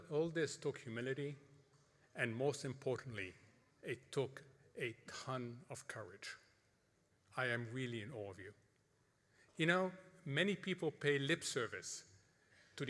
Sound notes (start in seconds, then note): none